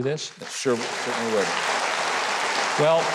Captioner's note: audience applauding